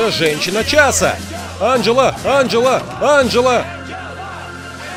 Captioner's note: chanting